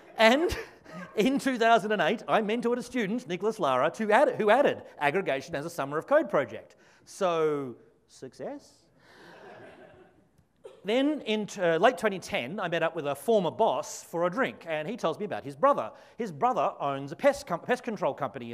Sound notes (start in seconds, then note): 9.2 audience laughs